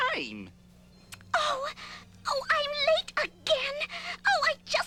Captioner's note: lip smack